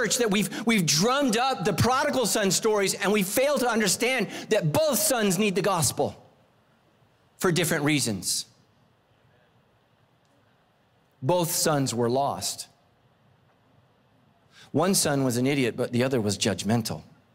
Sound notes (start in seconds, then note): none